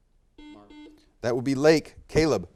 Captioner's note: buzzer beeps